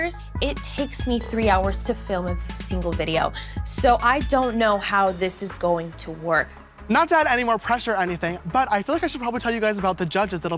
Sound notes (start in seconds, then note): none